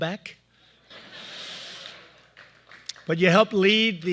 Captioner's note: laughter